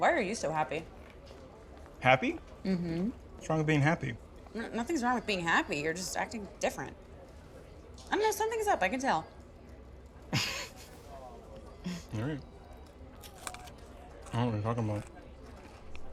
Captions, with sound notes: - Why are you so happy? - Happy? - Mm-hmm. - What's wrong with being happy? - Nothing's wrong with being happy, you're just acting different. I don't know, something's up, I can tell. (chuckles) - Alright. I don't know what you're talking about.